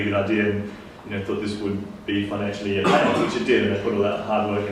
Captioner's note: coughs